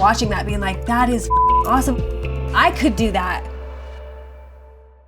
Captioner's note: beep